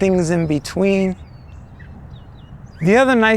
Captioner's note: bird calling